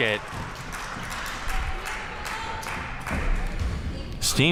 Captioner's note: crowd cheering